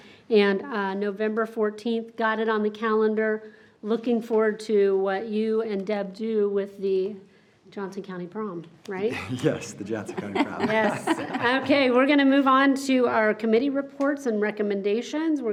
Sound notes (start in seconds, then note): 9.0 group laughs